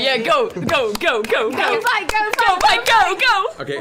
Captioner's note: clapping